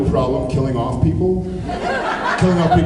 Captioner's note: laughs